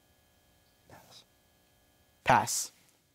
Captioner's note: whispers